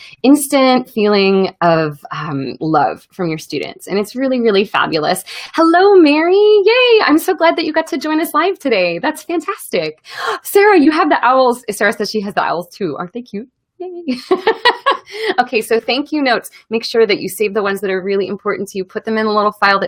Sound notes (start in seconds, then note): 14.1 laughs